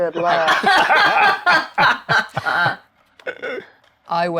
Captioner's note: players laughing